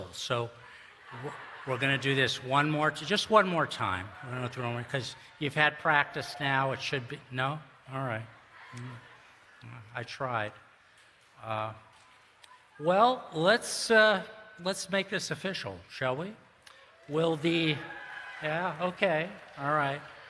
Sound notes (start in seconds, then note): 16.8 cheering